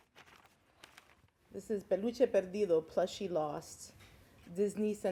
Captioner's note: speaks Spanish